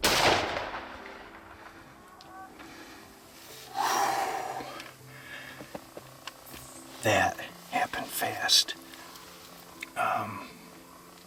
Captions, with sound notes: (gunshot cracking) (exhales deeply) That happened fast.